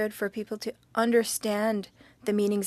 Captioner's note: speaking French